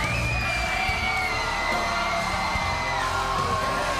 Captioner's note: crowd cheering